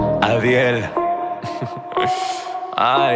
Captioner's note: laughing